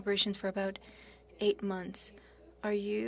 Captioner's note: speaking French